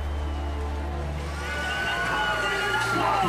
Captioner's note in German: Stimmengewirr, Stadionlärm; Laute Stadionsprecherstimme